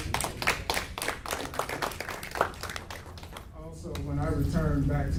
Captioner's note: audience clapping